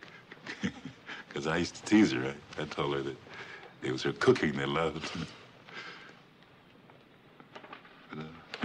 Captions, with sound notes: (chuckles) 'Cause I used to tease her, right? I told her that it was her cooking they loved.